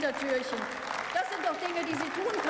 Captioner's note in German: Beifall